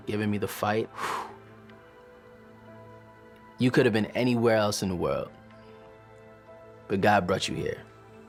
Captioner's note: exhales